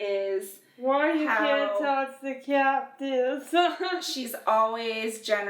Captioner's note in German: kichert